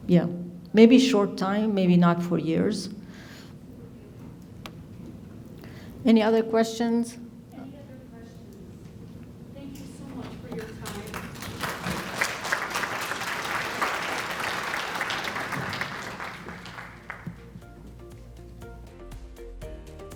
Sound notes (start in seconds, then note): 10.5 audience applauding; 17.3 upbeat music